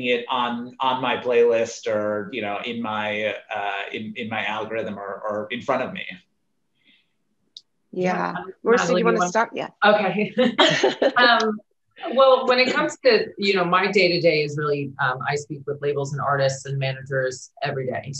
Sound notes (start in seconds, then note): 10.3 laughing